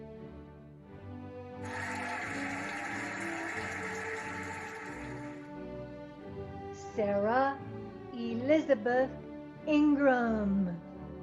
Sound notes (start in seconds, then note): 1.6 cheering and applauding